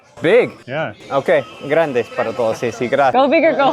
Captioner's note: speaking Spanish